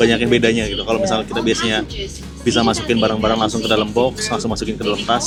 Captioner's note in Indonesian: box motor